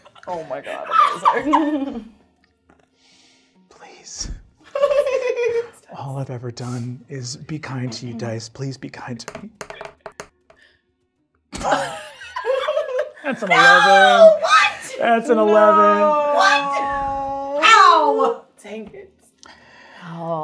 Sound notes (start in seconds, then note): 0.1 laughing; 4.7 giggling; 9.4 die rolling; 11.5 all laughing